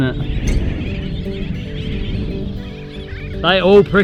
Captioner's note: birds chirping